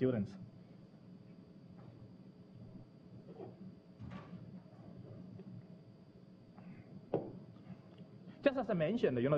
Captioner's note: pause